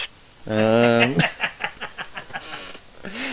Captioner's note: laugh